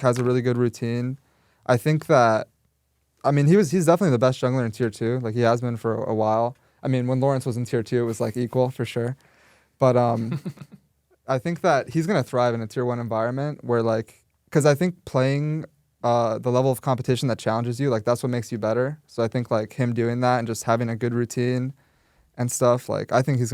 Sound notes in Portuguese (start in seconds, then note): 10.1 risos